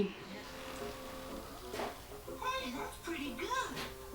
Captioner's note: on TV